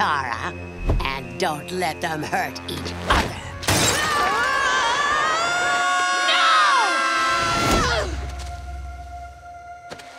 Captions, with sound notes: and don't let them hurt each other. [screaming] No!